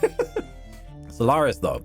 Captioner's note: laughter